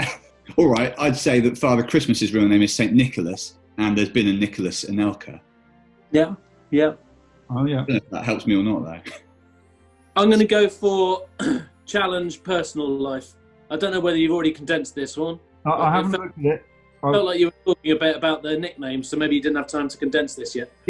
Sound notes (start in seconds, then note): 11.4 clears throat